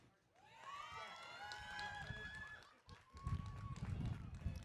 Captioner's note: audience cheering